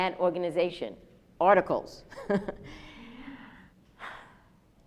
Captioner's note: laughs